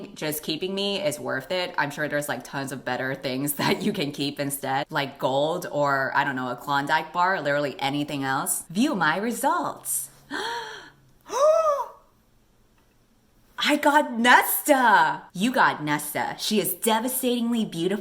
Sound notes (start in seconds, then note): 10.2 gasp